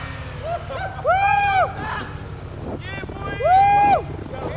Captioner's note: group cheering